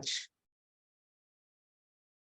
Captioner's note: speaking Alternate Language